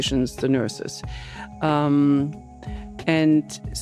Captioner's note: inhales